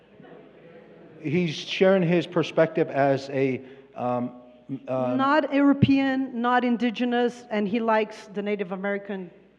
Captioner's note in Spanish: Expositor habla en inglés